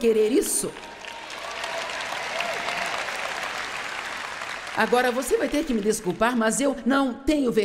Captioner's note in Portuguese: audiência aplaude